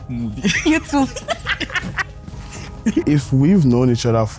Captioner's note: laughs